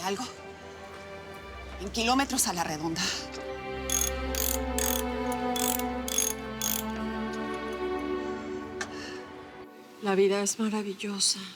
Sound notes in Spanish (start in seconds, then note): 3.8 Ruido al trabajar